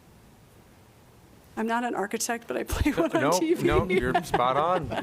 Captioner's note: laughter